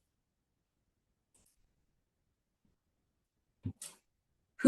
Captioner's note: long pause